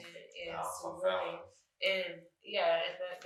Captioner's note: speaking faintly